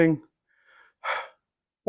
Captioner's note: sigh!